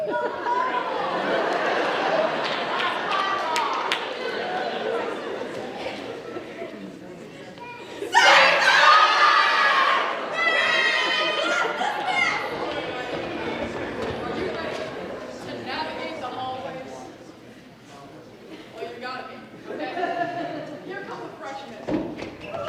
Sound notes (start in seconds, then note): 0.0 audience laughs; 8.1 performers scream